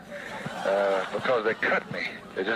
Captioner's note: audience laughs